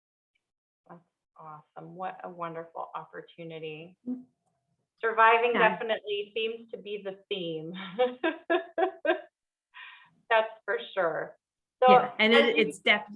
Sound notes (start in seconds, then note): 8.0 laughing